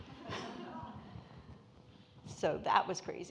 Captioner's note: audience laughing